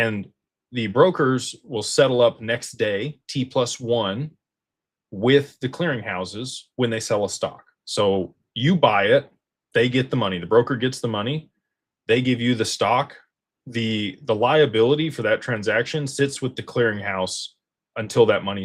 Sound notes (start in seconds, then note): none